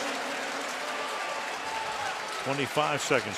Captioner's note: pa announcement